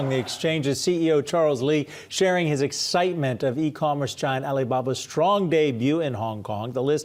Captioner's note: applause